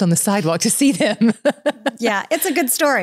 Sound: laughing

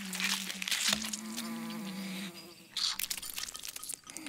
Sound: fly buzzing

